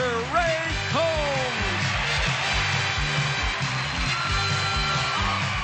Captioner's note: applause